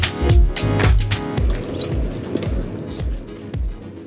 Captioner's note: squeeking sound